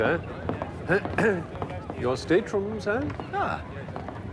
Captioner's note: clearing throat